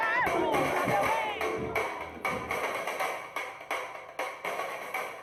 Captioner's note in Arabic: هتاف